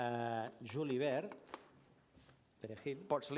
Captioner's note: non-english